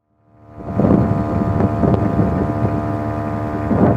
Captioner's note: air compressor pump running, light wind sounds